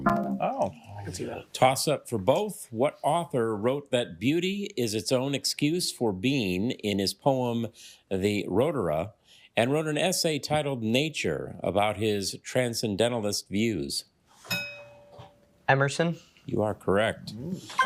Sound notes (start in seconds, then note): 0.1 failure chime; 14.5 bell dings